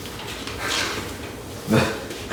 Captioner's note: nervous laughter; chuckle